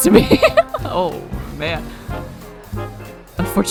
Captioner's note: laughs